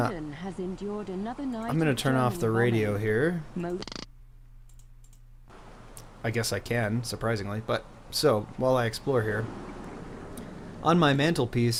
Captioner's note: clicks